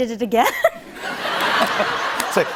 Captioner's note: laughter